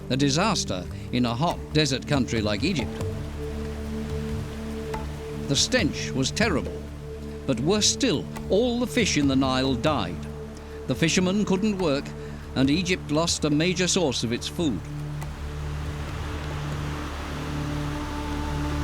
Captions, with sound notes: A disaster in a hot, desert country like Egypt. The stench was terrible. But worse still, all the fish in the Nile died. The fishermen couldn't work, and Egypt lost a major source of its food. [rushing water]